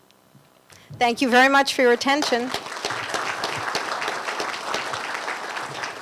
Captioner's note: applause